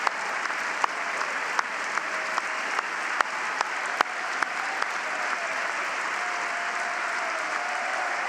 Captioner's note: cheering and applause; cheers and applause